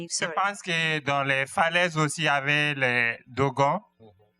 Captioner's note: speaking french